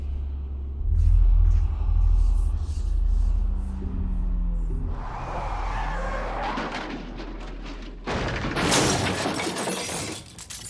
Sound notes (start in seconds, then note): 4.9 tires squealing; 6.4 sign crashing